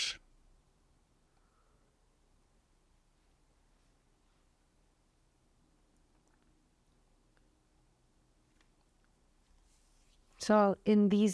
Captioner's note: pauses 10 seconds